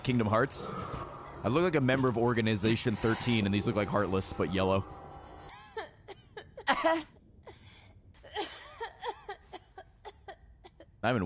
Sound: coughs

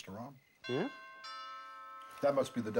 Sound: doorbe rllings

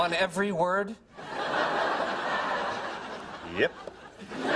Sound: laugh

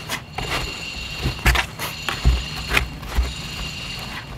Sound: metal clangs

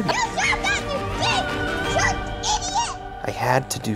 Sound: child yelling

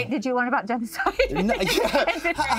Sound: both laugh

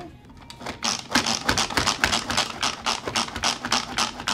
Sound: machine clicking

